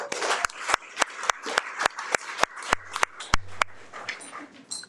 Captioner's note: audience applauding